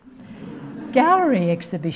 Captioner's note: audience laughing